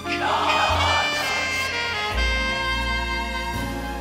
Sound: whispers

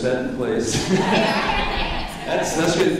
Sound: laughing

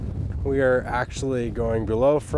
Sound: wind whooshing

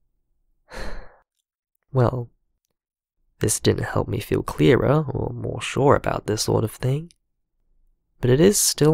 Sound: sigh

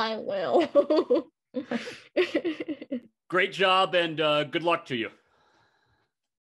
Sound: laughter

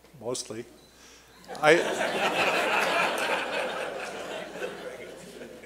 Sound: laughter

